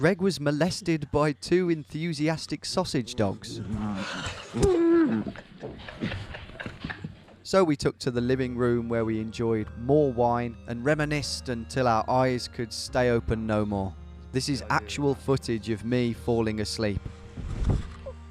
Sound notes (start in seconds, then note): 2.9 laughing; 3.1 dogs grumbling